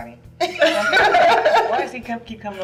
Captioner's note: laughing